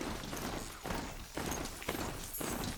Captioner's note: none